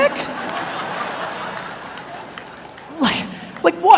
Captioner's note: audience laughs